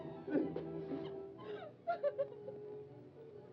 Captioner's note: June sobs